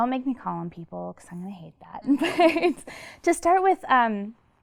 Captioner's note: laughs